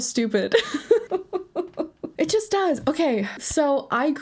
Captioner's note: laughs